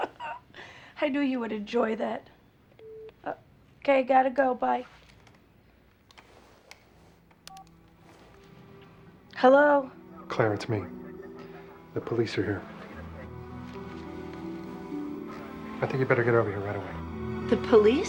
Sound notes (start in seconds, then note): 0.0 laughs; 2.8 beeps